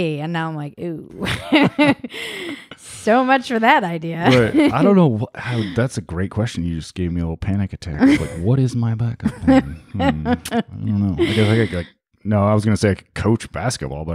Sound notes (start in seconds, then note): 1.3 laughs; 9.2 laughing